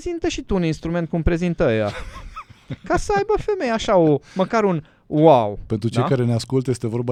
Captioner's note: laughter